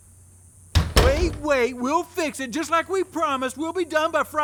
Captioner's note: door closes